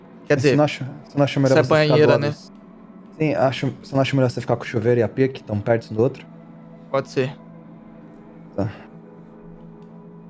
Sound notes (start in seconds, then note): none